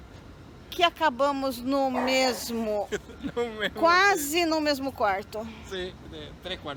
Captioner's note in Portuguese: risos